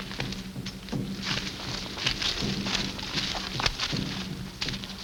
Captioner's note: leaves rustle